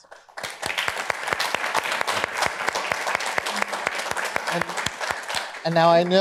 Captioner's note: applause